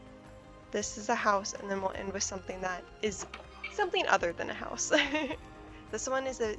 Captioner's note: laughs